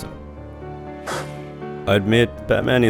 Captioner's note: scoffs